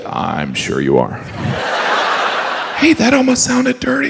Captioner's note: audience laughs